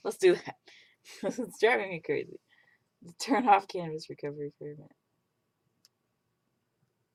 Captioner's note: laughs